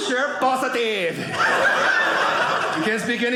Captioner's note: audience laughing